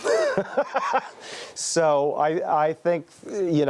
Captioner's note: laughing